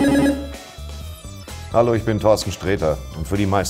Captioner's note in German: none